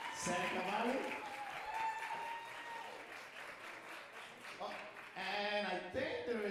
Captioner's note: audience cheering and applauding